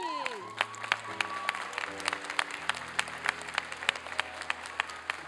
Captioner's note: applause